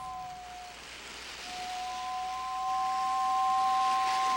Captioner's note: train whisling